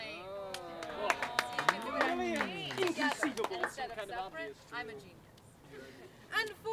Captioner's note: applause